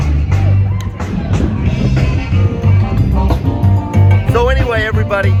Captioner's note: crowd shouting "tequila!"